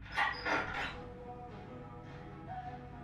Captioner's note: metal clanking